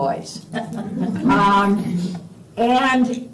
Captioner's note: laughter